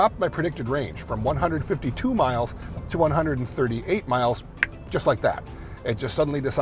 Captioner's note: snaps